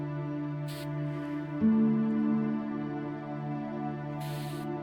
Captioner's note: liquid nitrogen being sprayed